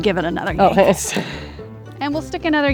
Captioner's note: laughs